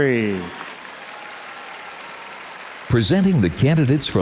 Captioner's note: audience applauds